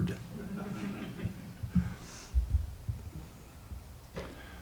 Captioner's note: audience chuckles